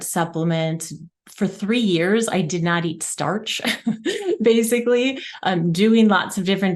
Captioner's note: chuckles